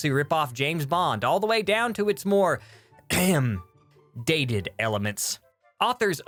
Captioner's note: ahem